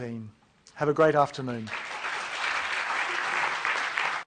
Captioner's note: applause